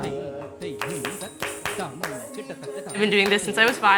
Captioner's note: clapping rhythmically